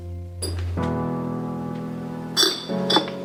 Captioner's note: bottles clinking; somber melody